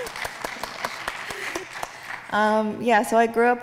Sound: laughs; audience clapping

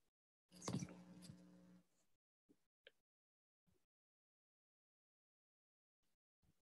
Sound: silence

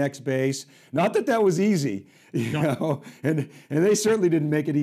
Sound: chuckling

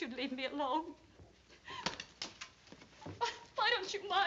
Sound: sobbing

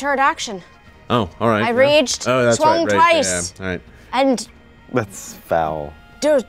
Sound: murmurs

